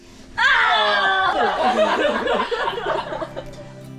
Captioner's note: laughing